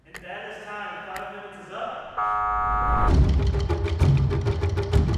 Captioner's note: buzzer sound